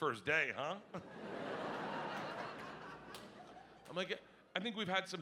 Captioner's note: audience laughing